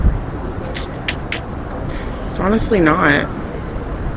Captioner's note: tongue clicks